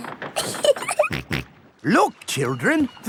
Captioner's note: giggling; snorts